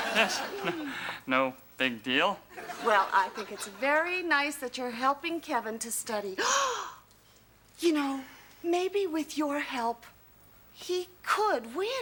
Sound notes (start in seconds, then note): 0.7 sighs; 6.4 gasps